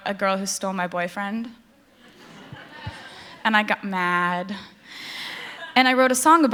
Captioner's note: laughter